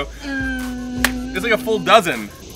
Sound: grunting

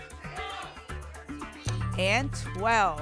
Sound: audience shouting numbers

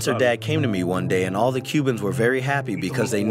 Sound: through translator

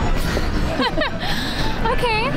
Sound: they laugh

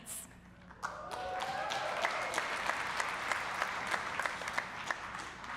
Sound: audience cheering and applauding

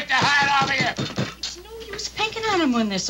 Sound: hand thudding

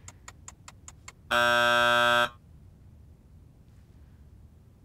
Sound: buzzer

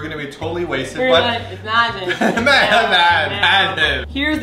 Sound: laughs

